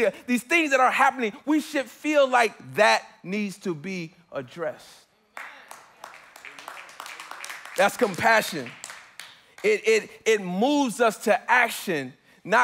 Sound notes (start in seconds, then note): 5.3 congregants applauding; 6.0 congregants affirming